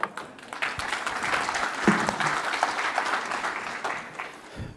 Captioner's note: audience applauding